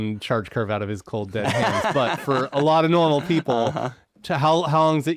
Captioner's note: laughing